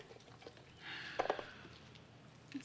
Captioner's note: sighs